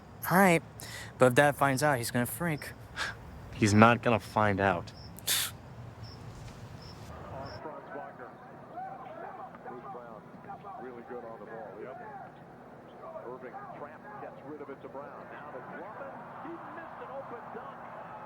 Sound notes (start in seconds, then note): 5.2 Brian huffs; 7.0 basketball crowd cheering and shouting